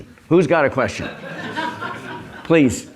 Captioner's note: laugh